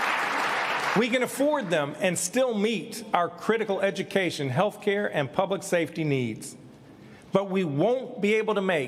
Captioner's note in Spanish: aplausos